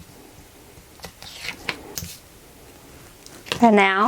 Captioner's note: ripping